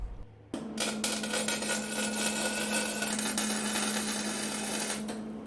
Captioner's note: welding sound